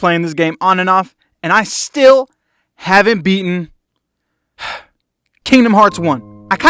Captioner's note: sigh